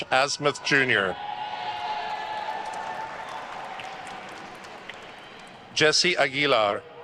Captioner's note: attendees cheering and applauding